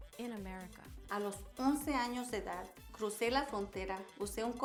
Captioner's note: speaking Spanish